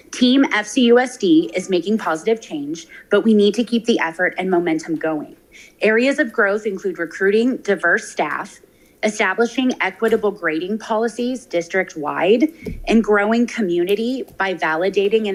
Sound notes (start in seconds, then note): none